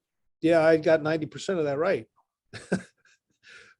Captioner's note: chuckles